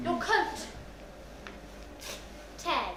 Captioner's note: tearing sound